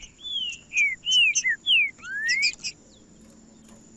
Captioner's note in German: trinca ferro cantando